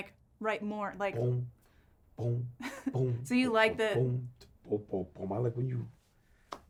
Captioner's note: imitating tuba sounds